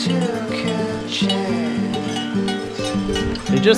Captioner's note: bells ringing